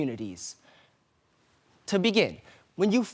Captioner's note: soft breathing